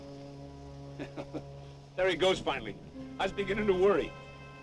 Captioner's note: laughs